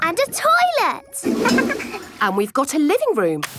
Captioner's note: toilet flush